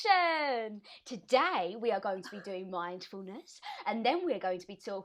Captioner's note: Exaggerated ‘Claire’ impression; others laughing